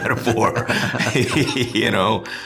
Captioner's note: both chuckling